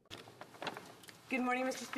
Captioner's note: speaking French